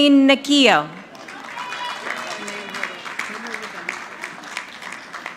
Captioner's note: audience clapping